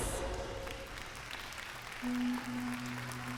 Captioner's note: applause